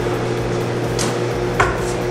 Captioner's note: mouthing